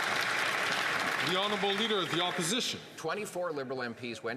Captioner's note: some Applause